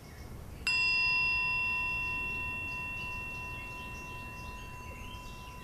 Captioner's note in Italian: suono di campanella